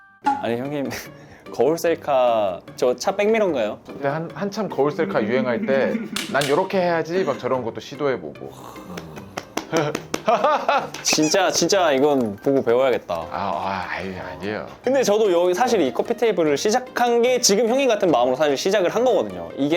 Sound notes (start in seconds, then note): 8.9 applause of respect